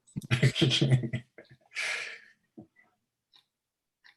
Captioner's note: laughing